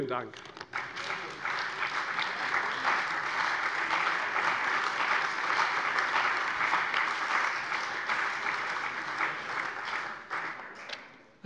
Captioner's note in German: Beifall bei der CDU und dem BÜNDNIS 90/DIE GRÜNEN